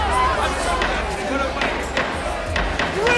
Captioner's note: gavel banging